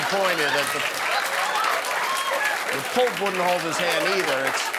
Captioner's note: laughter